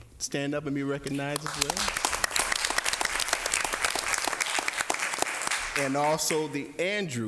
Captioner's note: applause